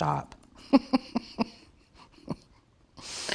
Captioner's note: laughs